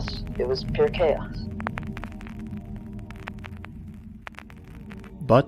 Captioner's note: static